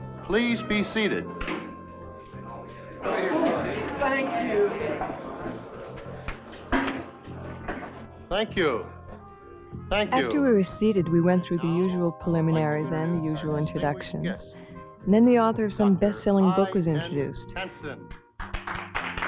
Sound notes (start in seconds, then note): 2.9 crowd chattering; 18.4 crowd clapping